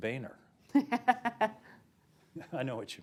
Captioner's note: laughter